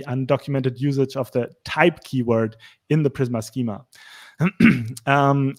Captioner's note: clear throat